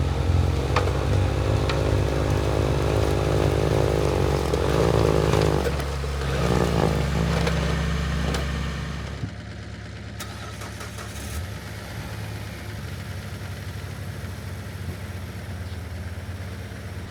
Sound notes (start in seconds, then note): 10.2 engine turning and then revving